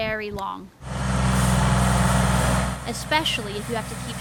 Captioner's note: tractor roaring